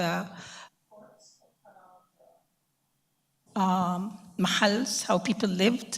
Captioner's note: computer voice plays over speaker